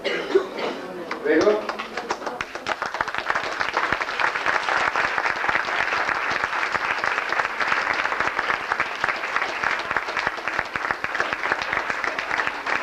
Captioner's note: applause